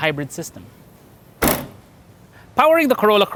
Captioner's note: door closes